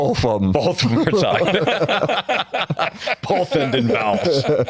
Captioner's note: laughter